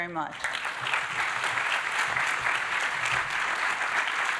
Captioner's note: audience applauding